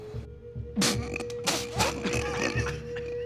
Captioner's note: coughs